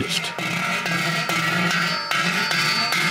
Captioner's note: loud clattering